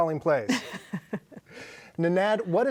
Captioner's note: laughs